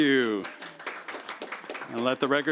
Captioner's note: applause